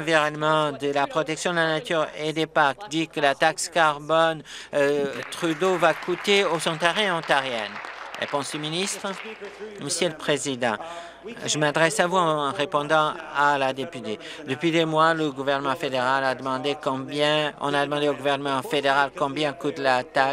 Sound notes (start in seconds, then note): 7.8 applause